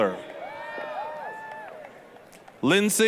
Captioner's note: applause, cheering